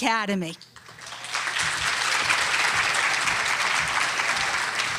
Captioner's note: audience clapping